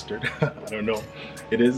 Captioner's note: chuckles